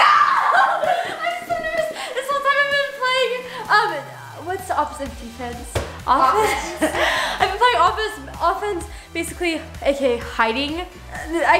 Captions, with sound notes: - No, I'm so nervous this is part of, what's the opposite of defense? - Offense - Offense (laughing) I've been playing offense basically, hiding.